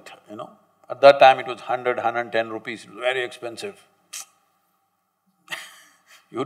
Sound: laughs

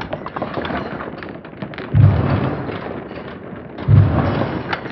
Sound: slow-mo MMX sounds

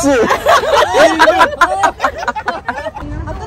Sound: laughing

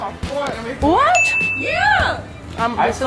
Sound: ringing sound

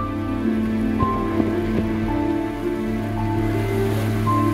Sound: rain on water

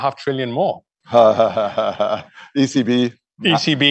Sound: laughs

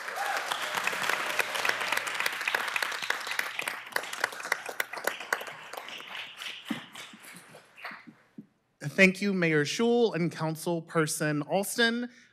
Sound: applause

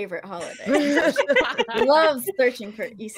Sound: ladies laughing

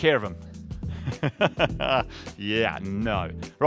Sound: laughter

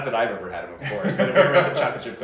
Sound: laughs

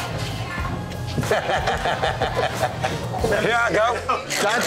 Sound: laughter

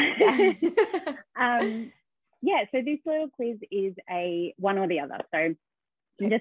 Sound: chuckles

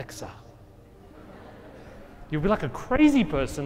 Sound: audience laughing

